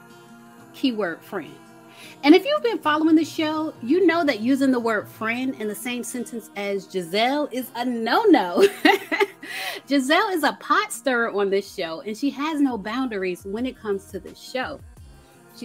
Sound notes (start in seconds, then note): 8.5 laughs